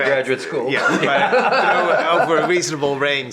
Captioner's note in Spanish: risas